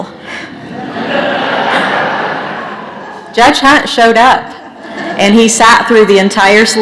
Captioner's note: laughter